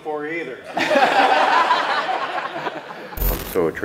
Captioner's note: laughter